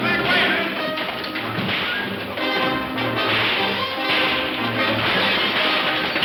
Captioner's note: suspenseful music; guns firing